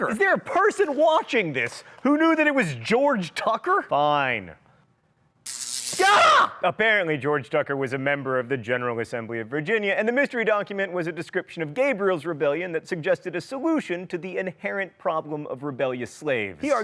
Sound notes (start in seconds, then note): 5.4 zaps; 5.9 screams